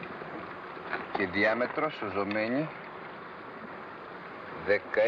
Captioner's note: man speaking greek